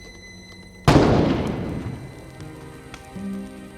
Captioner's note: gunshot echoes